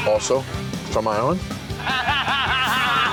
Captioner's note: laughter